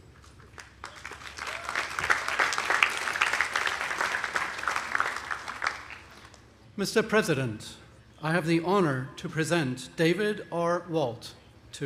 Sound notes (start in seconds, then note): 0.2 audience applauding